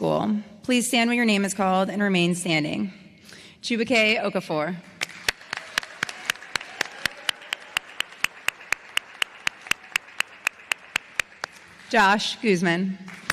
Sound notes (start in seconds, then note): 4.9 applause